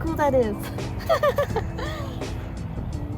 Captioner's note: laughs